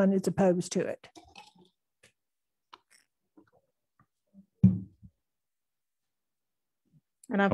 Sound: silence

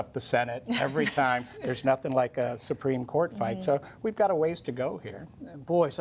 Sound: laughter

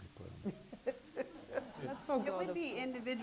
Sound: laughing

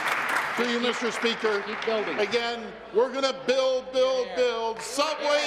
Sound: applause

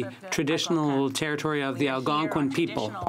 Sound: speaking French

